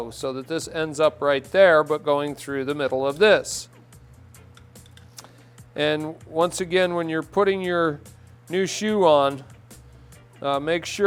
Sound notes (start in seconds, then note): none